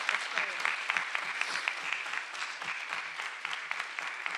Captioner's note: everyone applauding